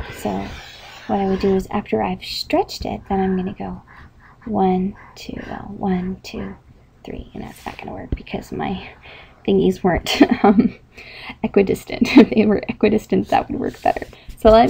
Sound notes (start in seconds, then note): 9.8 laughing